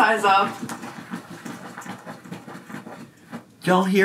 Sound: floor scraping softly

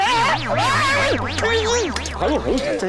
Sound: screaming

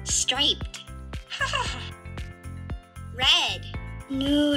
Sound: giggles

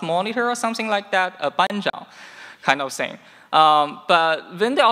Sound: speaking in foreign language

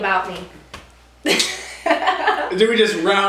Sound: laughter

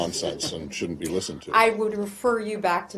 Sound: laughter

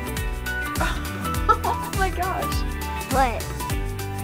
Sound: laughing

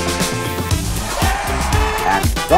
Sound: crowd cheers

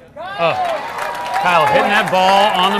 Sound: audience applauding and cheering

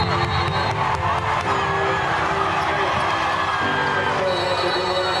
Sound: cheers and applause

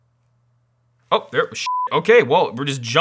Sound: beep

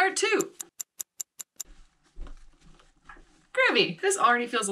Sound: timer ticking

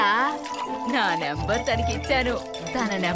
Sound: phone rings

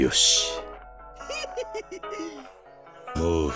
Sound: giggles

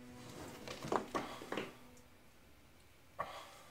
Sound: sighing

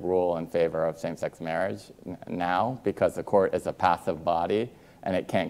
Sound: none

